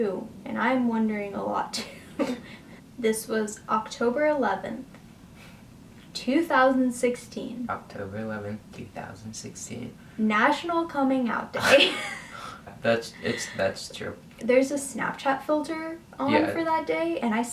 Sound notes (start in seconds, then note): 12.5 laughs